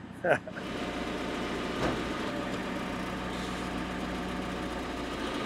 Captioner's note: chuckling; engine revving